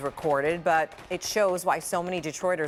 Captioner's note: gunfire